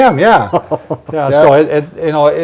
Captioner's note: laughing